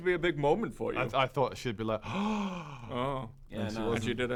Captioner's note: gasp